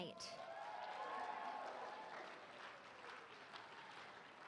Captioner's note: applause